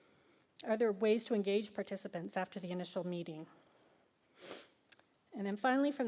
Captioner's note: sniffs